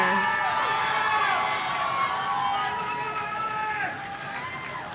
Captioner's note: audience cheering